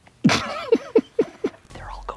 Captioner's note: Steve laughs